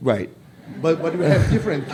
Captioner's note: laughter